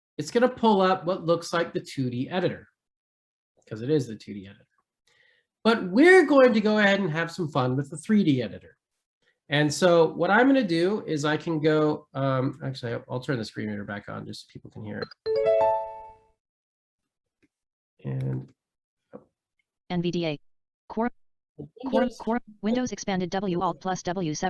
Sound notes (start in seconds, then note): 15.0 software notification ding